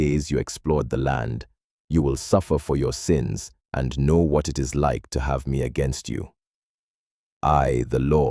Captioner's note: sternly